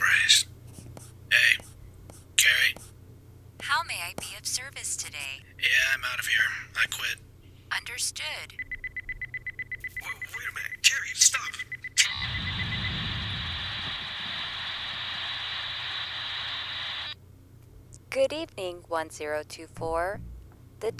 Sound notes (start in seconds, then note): 8.5 beeping sound; 12.2 rumbling sounds